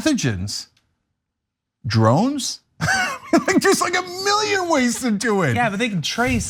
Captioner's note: laugh